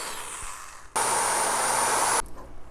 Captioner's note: drilling